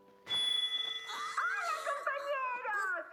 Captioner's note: microphone feedback